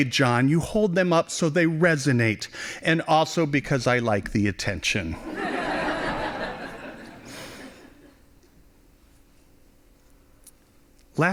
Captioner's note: laughing